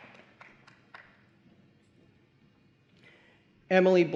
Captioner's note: applause